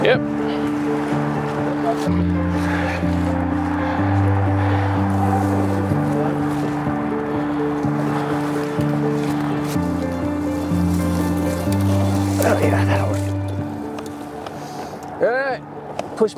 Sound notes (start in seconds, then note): 1.4 suspenseful light classical music continuing; 5.6 leaves crunching; 5.6 undergrowth rustling